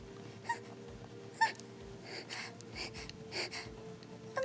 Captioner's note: whimpering